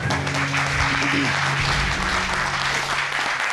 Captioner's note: applause and cheering